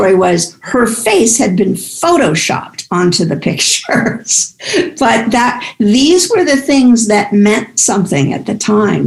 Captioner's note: laughs